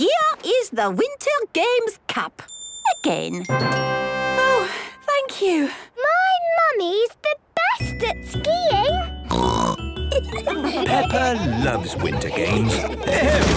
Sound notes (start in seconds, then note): 3.4 triumphant music; 9.3 snorting; 10.0 laughter